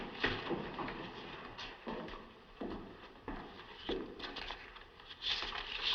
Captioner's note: footsteps